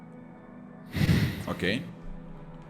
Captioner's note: sigh